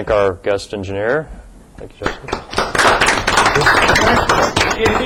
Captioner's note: class clapping